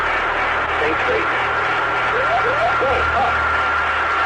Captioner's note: plane warning beeping; airplane; plane alarms blaring